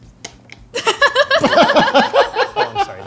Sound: laugh

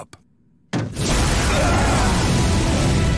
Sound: screaming

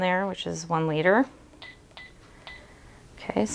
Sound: machine beeping

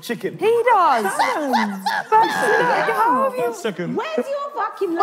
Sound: laughing

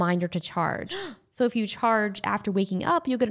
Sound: gasps

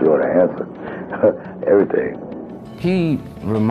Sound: chuckles

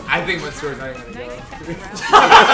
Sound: laugh

